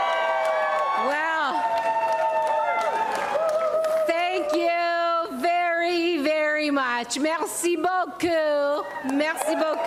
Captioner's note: applause and cheering